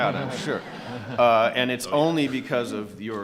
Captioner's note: audience laughing